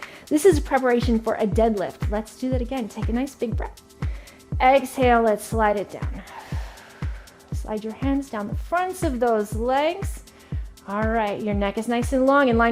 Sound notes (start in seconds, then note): 6.2 exhaling sharply